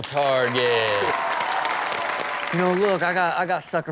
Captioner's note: audience cheers